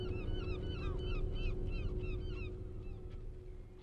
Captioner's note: none